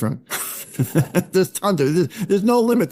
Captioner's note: laughing